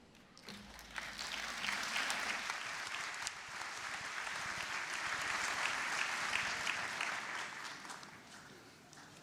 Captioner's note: applause